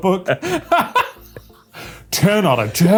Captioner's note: laughing